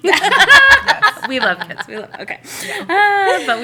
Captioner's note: laughter